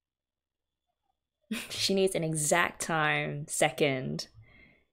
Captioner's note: laughs